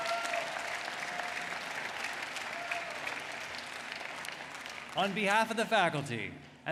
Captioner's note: applause